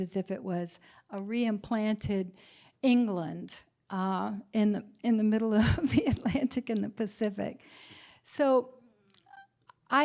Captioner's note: laughter